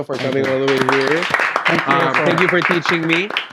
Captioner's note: applauds